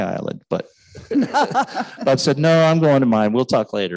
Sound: laughing

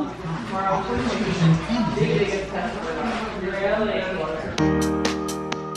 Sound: announcer voice in background; upbeat music

